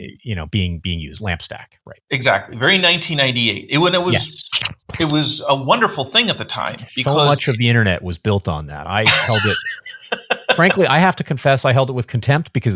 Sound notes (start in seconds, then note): 9.0 laughing